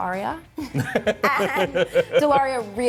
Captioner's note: laughing